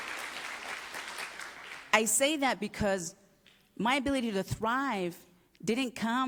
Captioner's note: applause